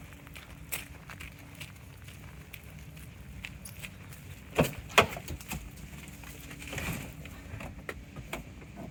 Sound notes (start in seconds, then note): 4.6 door scraping